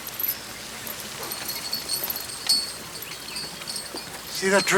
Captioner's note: chain rattles